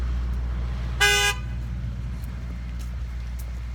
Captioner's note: horn honking